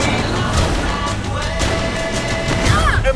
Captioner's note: gunshots ring out; Emma cries out